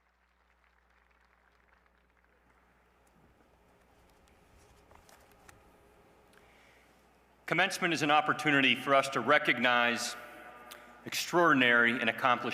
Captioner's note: applause